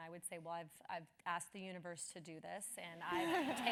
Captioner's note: laugh